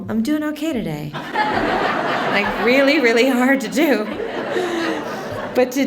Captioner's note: laughter